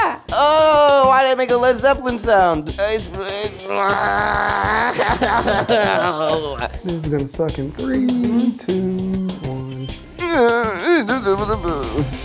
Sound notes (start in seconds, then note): 3.5 groaning; 10.2 whimpering